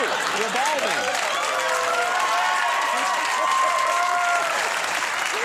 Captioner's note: audience cheers